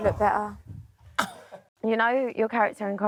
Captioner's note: scoffs